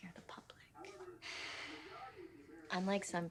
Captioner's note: loud exhale